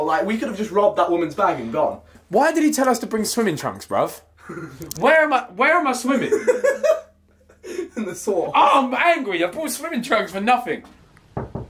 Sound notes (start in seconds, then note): 6.2 laughing